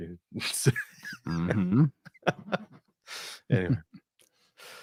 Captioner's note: laughter